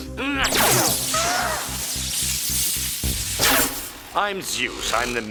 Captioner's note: triplets gasp; grunts